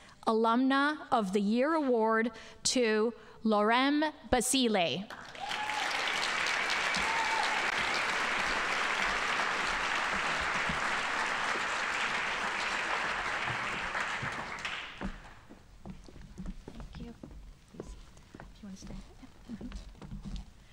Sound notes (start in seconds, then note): 5.1 audience applauding